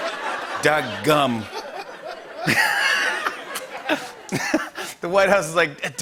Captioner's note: laughter